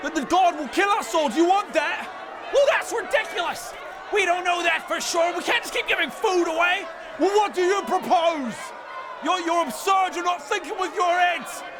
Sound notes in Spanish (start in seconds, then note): 7.3 multitud enojada